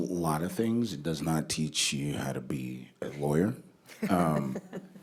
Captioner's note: laughter